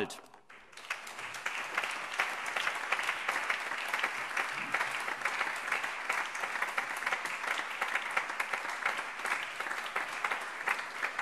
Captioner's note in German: Allgemeiner Beifall